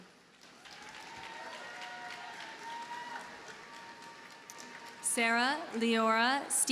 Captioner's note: audience cheers and applauds